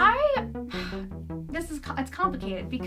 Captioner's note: sighs